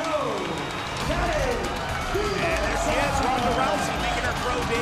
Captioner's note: announcers chattering